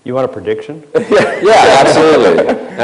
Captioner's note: crowd laughs